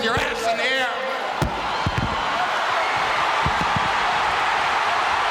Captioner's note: audience cheering